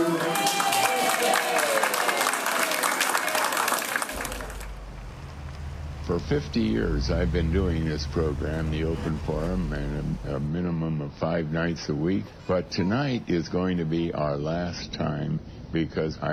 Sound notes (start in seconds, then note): 0.0 crowd applauding